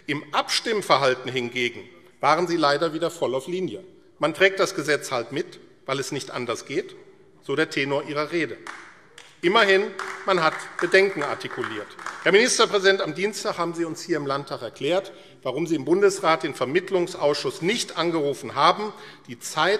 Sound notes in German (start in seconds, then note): 8.5 Beifall AfD